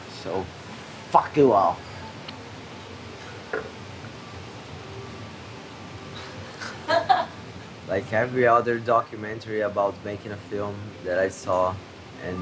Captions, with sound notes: - So fuck you all. (both laughing) Like every other documentary about making a film that I saw